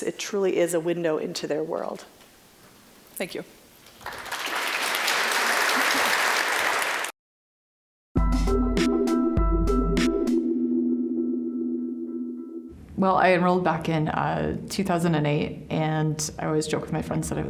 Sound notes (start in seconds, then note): 3.9 applause; 8.2 bright, ambient tonal music